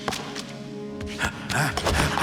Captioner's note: gasping